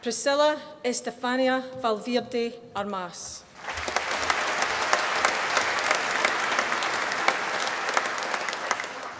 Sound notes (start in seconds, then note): 3.5 applause